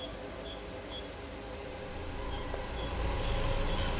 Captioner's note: car engine revving; dramatic music